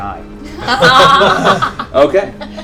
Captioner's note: laughter